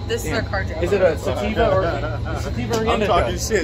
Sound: laughs

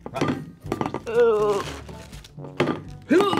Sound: groans; grunts

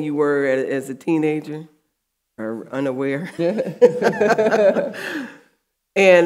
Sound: audience laughing

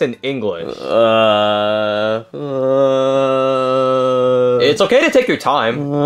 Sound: groaning

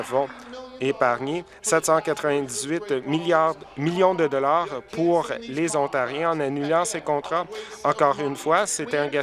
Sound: applause

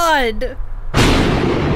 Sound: thunder

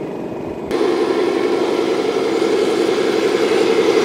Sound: machine roars

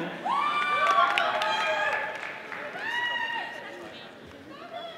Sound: audience applauding

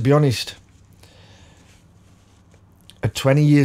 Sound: silence

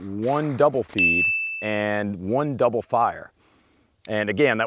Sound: ding

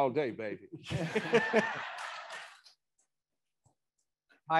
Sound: attendees laughing

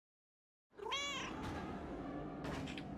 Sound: cat meows

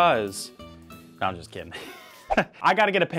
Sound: laughs

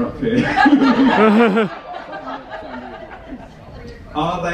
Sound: guests laughing; laughs

